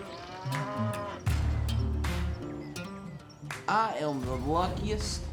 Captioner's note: mooing